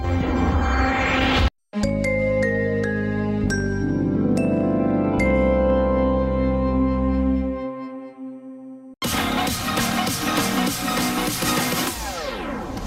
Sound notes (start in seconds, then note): 1.8 remastered wondrous chime plays; 9.0 epic dance music playing